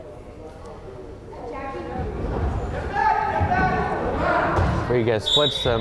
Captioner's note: crowd chattering and yelling